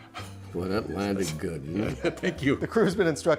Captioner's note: laughter